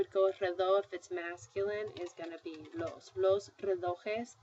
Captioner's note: spanish; speaking spanish